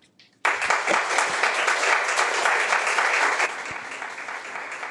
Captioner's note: people applauding